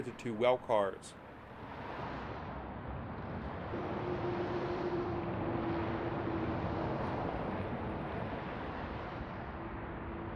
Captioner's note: wind howling